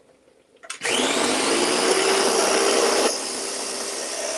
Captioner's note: blender whirling